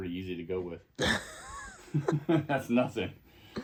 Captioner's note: both laughing